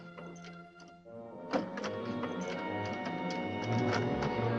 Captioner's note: lock rattling